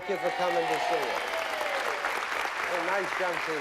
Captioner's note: applause